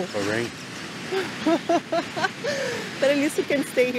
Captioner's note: laughs